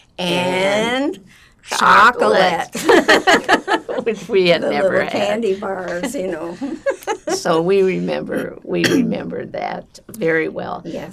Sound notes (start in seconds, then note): 2.7 laughing; 5.6 laughing